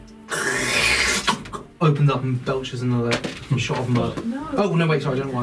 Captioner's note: squelching noise